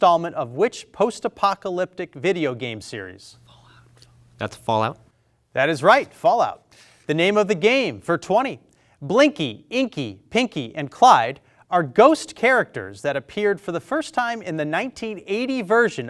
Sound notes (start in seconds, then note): none